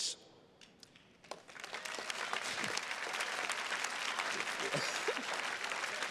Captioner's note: attendees clapping; chuckles